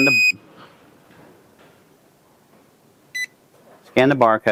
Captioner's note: machine beeps